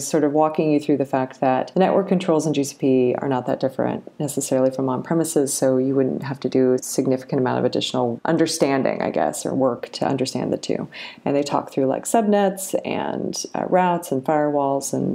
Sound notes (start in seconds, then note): none